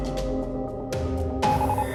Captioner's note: electronic beeping